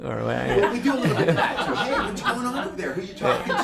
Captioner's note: everyone laughing